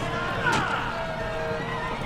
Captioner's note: thud